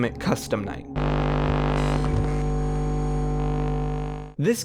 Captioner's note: electronic hum